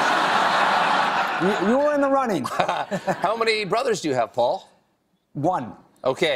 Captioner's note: laughter